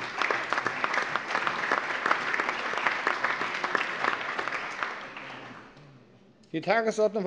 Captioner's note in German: Allgemeiner Beifall